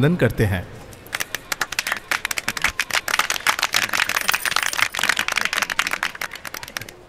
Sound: applause

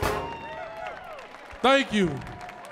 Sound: audience cheering

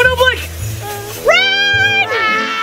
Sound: whimpers

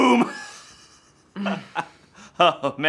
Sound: giggling

